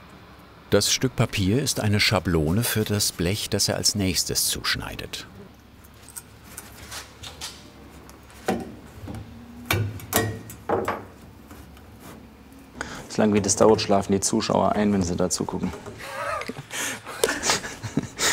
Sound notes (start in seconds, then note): 9.7 metal noises; 16.0 laughter